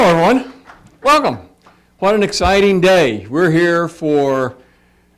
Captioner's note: applause